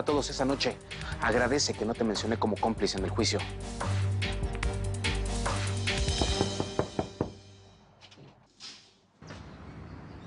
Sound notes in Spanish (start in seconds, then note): 6.0 Toques en la puerta